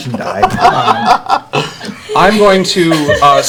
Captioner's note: laughter